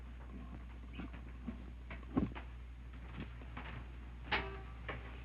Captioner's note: footsteps approaching